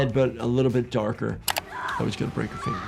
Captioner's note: computer mouse clicks; woman screaming